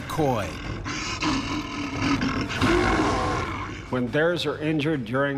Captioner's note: bear growling